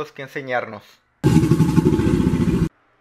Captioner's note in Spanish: Rugido de cocodrilo